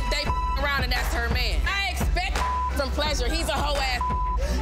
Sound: beep; beep

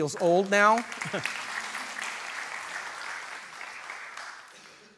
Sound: audience applause

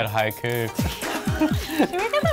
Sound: all laughing

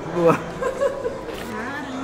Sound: laughs

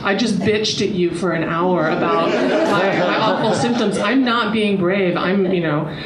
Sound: audience laughter

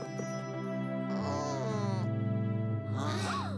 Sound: groans

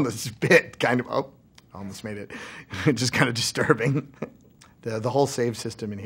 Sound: laughs

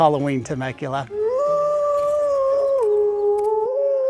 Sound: wolf howl

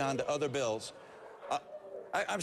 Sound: booing

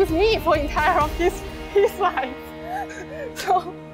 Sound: laughs

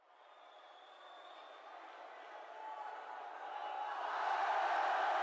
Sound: crowd cheering

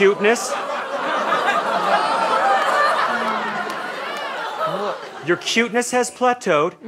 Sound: audience laughter

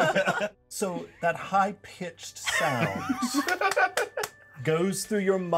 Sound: speaker laughs; laughs

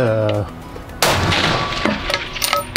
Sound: bam!!!

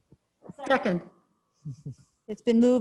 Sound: chuckles

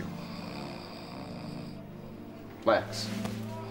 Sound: snoring

